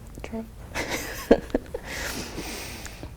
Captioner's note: laughs